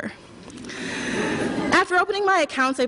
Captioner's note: laughter